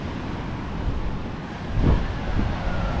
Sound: sirens wail

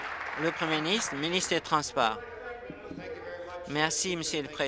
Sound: applause

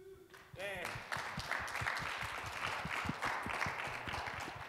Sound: audience applauding

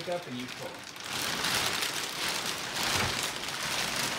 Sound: screaming plastic

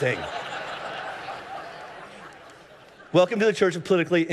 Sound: congregation laughing

